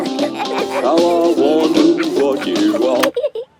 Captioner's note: both giggling